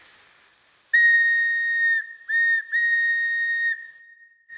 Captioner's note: melodic whistle sounds